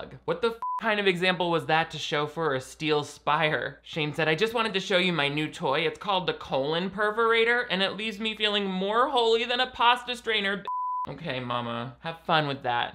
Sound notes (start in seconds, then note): 0.6 beep; 10.6 beep